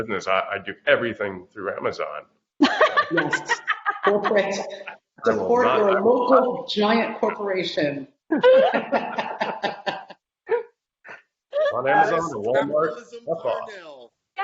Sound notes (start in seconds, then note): 2.6 laughing; 8.3 laughing